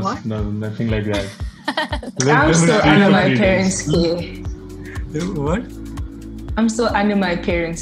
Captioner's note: everyone chuckles